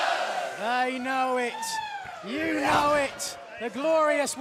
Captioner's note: fans chanting